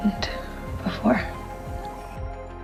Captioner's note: voiceover